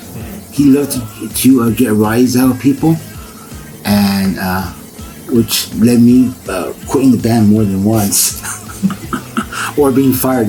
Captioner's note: laughs